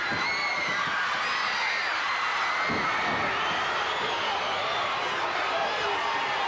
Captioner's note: audience cheering continues